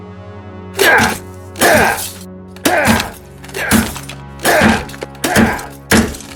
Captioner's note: phone shattering; James grunting